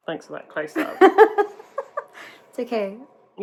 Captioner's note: laughs